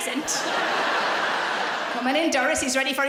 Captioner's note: laughing